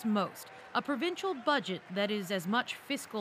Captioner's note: applause